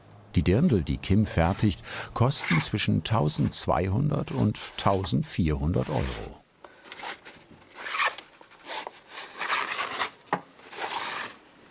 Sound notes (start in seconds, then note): 6.8 rustling, lashing